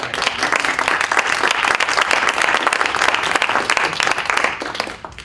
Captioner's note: applause